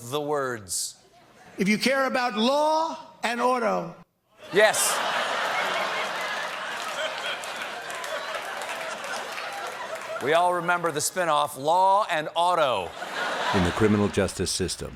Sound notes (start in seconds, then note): 12.8 laughter